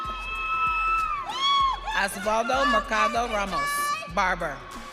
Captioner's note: audience cheering